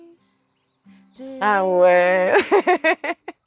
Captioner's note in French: Rires